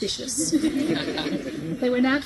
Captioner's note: guests laugh